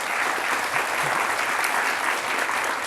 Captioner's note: applause